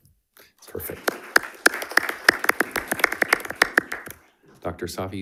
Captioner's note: audience applauding